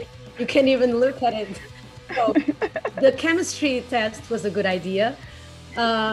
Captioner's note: laugh